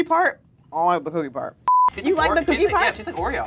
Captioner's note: electronic bleeps